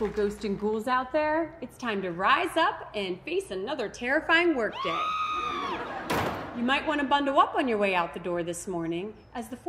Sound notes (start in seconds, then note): 4.7 woman screaming; 5.7 people laughing